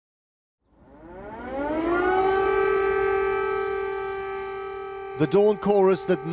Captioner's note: sound of air raid siren